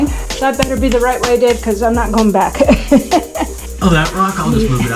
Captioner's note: laughing